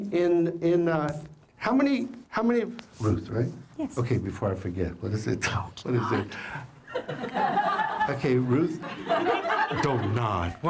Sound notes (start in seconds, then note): 6.9 laughter